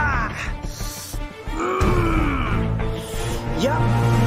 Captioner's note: Coyote groaning